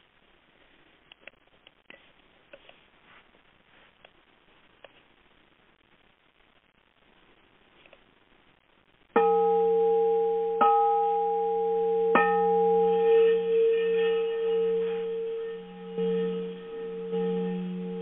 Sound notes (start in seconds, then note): 9.2 gong rings three times; 15.2 vibrating tone